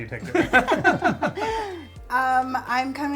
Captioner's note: laughs